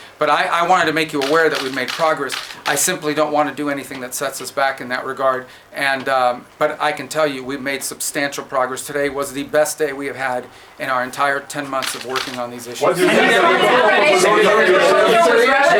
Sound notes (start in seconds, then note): 13.6 reporters clamoring